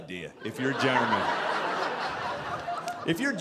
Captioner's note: audience laughing